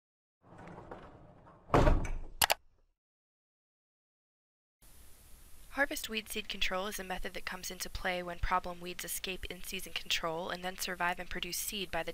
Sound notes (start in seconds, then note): 0.4 bumping noise; 2.4 computer mouse click